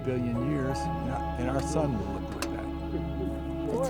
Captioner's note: voices